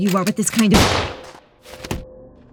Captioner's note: gun fires